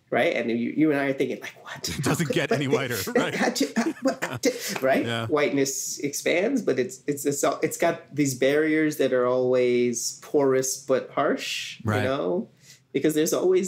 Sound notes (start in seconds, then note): 5.7 chuckling